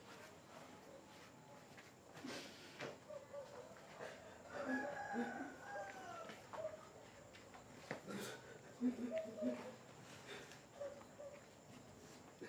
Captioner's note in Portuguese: choro